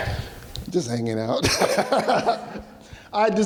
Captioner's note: laughs